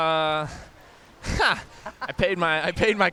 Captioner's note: laughter